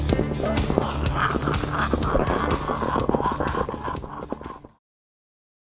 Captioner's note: screeching comparable to that of a choking pterodactyl